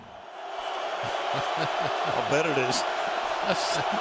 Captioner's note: chuckles